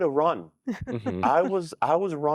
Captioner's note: giggling